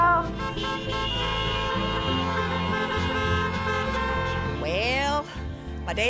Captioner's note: cars honking